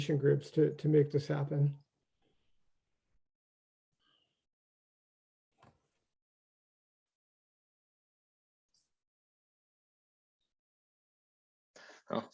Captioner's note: silence